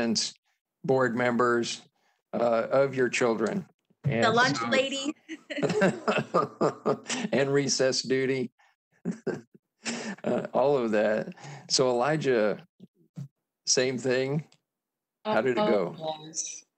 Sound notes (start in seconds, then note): 5.5 softly chuckling; 9.1 softly chuckles